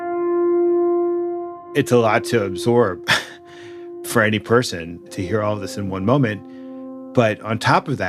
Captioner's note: exhales